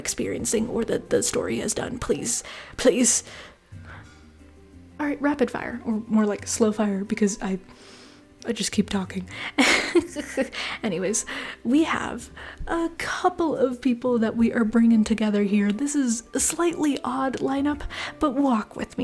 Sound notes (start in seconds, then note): 9.5 laughter